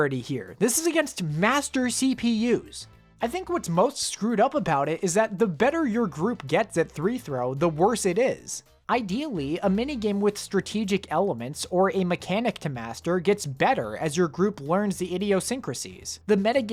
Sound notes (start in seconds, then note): none